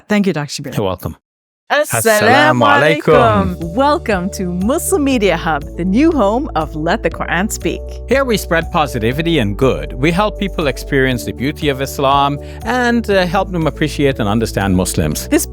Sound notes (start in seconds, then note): 1.7 speaking in Arabic